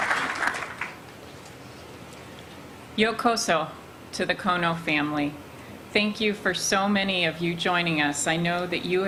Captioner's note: applause